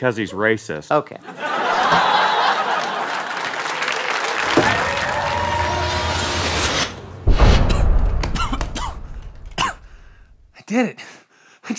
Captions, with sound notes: -Because he's racist. -Okay. [laughter] [cheering] [mechanical sounds] [coughing] -I did it!